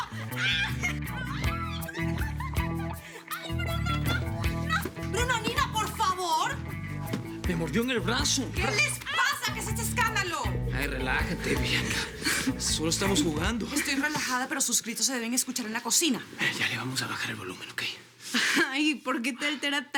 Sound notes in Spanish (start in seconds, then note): 1.5 Gritos; 4.6 Risas